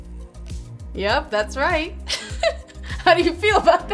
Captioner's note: laughs